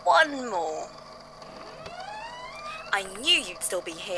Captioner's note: door opens